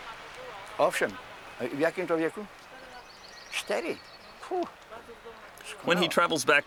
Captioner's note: speaking in foreign language